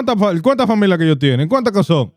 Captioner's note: speaking In Foreign Language